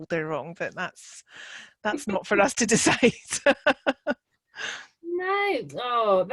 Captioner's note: chuckling